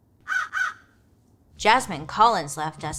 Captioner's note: Joan squawking